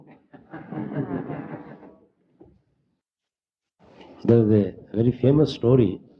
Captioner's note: laughter